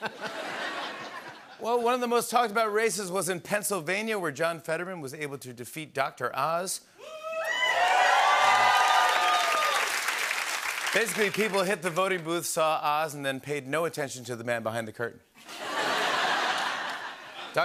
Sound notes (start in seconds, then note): 0.0 laughter; 7.0 cheering and applause; 15.4 laughter